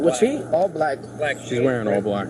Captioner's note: radio chatter